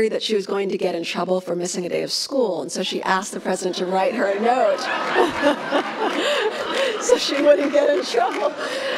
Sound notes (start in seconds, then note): 3.5 laughs; 5.6 applauds